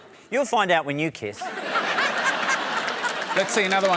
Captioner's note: laughter